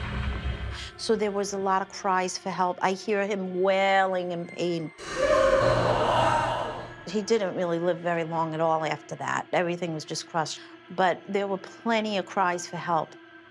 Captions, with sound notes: So there was a lot of cries for help. I hear him wailing in pain. [wailing] He didn't really live very long at all after that. Everything was just crushed. But there were plenty of cries for help.